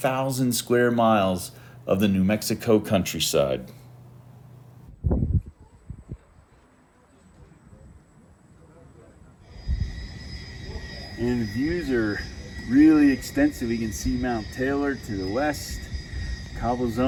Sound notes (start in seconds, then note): 10.2 wind noise